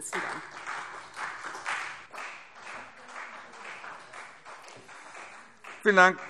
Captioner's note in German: Beifall CDU